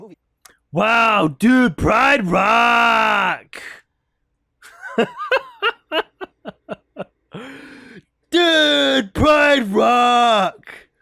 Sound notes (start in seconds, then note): 1.1 mocking; 4.6 laughs